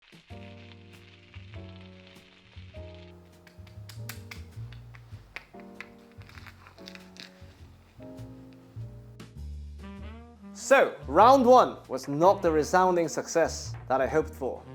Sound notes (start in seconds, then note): 3.4 clicking sound